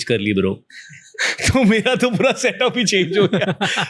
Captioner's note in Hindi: हंसी